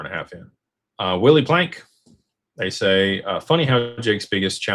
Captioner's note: none